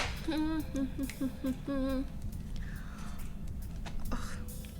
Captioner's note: humming